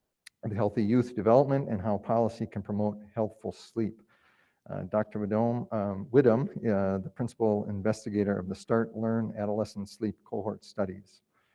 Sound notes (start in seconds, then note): none